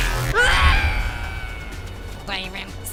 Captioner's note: screaming